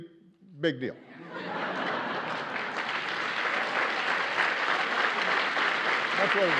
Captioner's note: laughter and applause